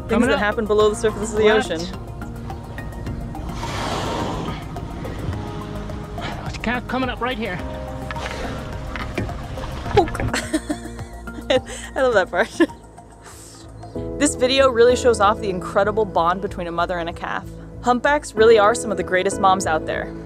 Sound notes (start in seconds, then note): 2.1 background music; 3.2 whale expels air from blowhole; 4.6 background music; 7.9 background music; 9.9 laughs